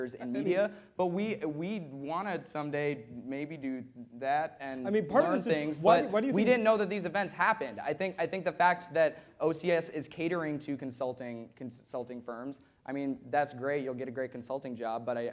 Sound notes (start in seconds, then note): none